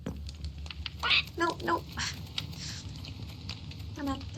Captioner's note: sighs